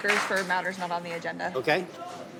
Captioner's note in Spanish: aplausos